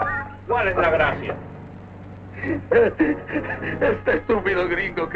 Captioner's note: General Tostada speaking in Spanish; Colonel Cabeza speaking in Spanish